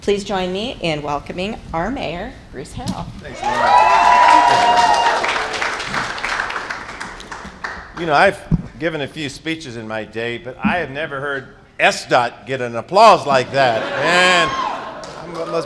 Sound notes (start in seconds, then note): 3.3 cheers and applause; 13.3 laughter